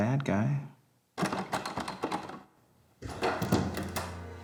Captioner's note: someone forcing the door